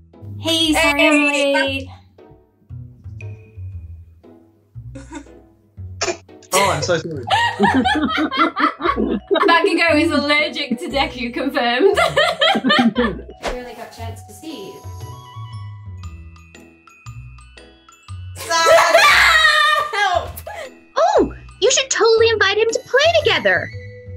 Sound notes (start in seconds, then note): 6.0 sneezes; 7.2 laughs; 11.8 laughs